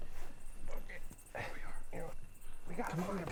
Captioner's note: Dana grunting